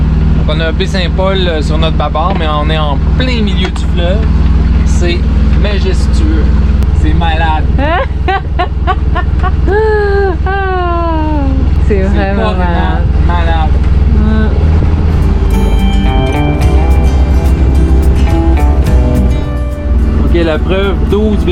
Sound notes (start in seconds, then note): 7.7 laughs